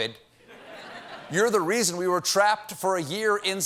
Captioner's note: laughter